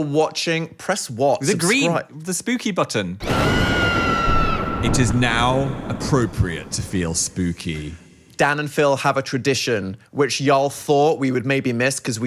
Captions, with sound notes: - If you are watching, press what? - The spooky button. (witch screaming) It is now appropriate to feel spooky. - Dan and Phil have a tradition which y'all thought we would maybe miss